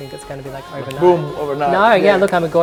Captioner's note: snaps